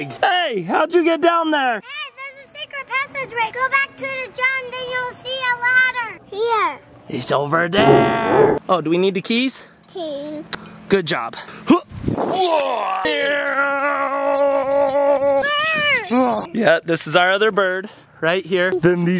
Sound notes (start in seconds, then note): 12.7 race Car noises